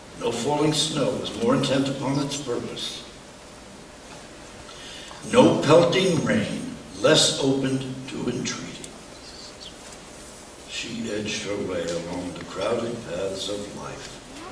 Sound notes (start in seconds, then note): none